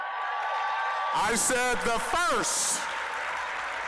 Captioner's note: applause, cheering